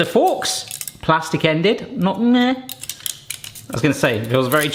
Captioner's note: moans